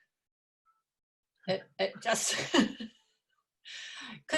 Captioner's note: laughs